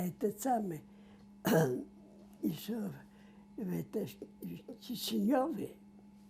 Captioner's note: coughing